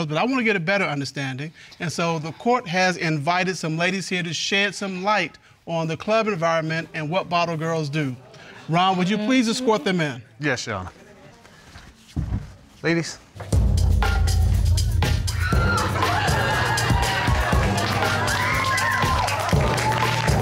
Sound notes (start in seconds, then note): 12.2 door opens; 13.4 club music starts playing; 15.4 audience cheering, applauding